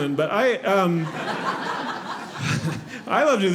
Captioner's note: audience laughing